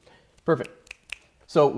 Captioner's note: clicks her fingers several times